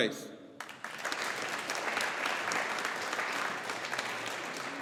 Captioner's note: audience applauding